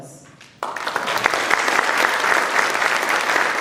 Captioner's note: applause